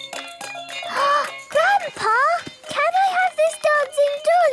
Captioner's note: upbeat music; gasps